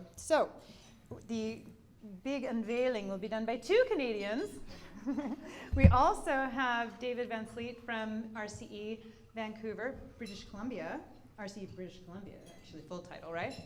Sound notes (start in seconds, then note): 4.4 giggles